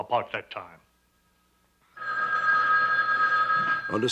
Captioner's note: phone ringing